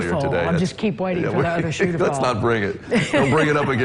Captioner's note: laughter